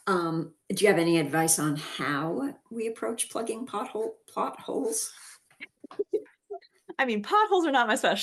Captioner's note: laughs